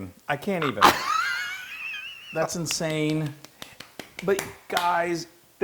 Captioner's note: laugh; applause